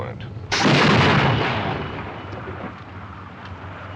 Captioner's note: explosion